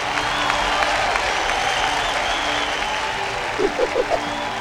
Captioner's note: ਭੀੜ ਤਾੜੀਆਂ ਮਾਰਦੀ ਹੈ